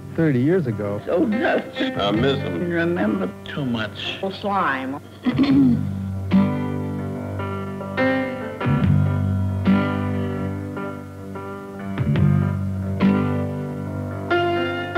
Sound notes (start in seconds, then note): 5.2 clearing throat